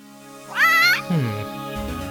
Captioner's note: squawk